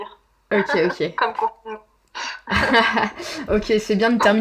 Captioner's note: laughs